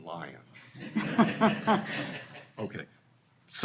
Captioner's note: all laughing